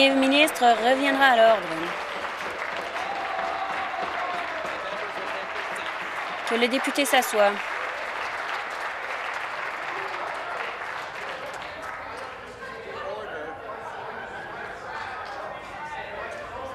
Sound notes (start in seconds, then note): 4.8 applause